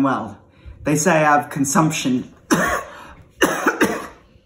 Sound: coughs

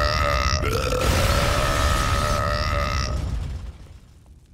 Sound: belching

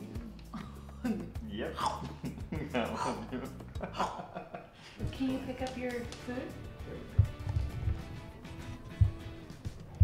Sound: laugh

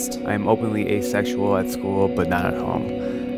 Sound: voiceover

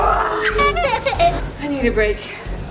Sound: kids giggling

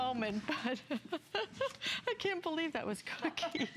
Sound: laughter

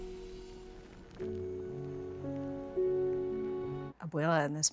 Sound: candle fizzles

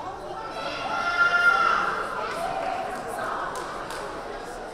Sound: crowd chattering; crowd member yelling

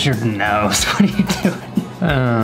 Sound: laughs

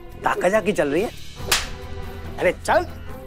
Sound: slaps

